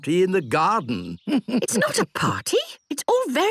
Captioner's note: chuckles